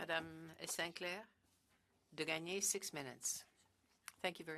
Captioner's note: speaking French